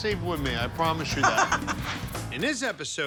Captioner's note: cook laughing